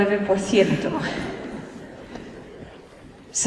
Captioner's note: laughter